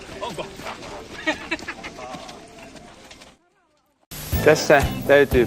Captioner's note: laughing